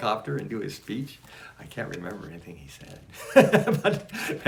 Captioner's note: laughs